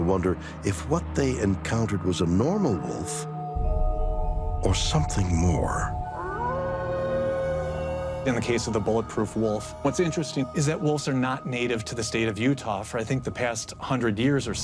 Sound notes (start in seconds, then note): 6.0 wolf howls